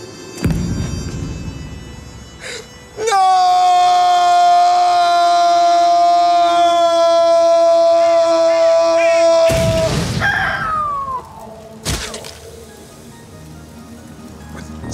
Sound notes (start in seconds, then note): 8.3 bird squawking; 9.4 explosion booms